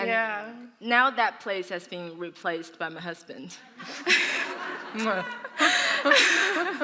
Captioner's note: laughter